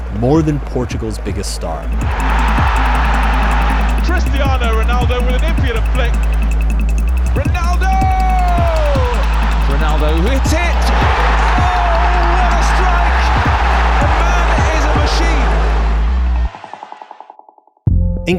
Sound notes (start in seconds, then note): 2.2 crowd cheering; 13.5 crowd cheering